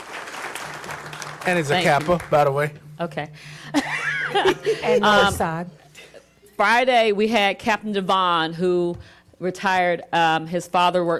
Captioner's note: applause